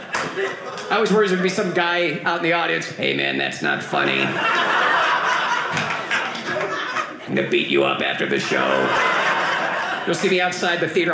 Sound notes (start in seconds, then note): 2.7 robotic voice; 4.0 audience laughing